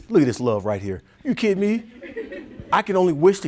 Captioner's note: audience chuckling